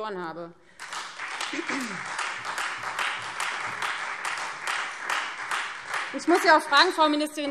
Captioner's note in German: Beifall Freie Demokraten und vereinzelt AfD